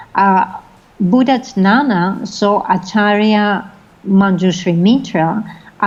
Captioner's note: foreign language